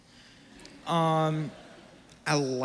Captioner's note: audience giggles